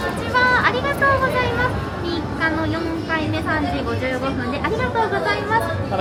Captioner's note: cast Member speaks in Japanese